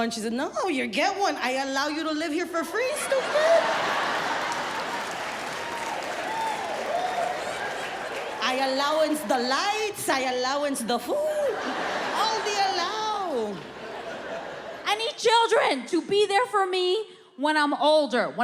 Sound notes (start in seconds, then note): 2.8 audience laughs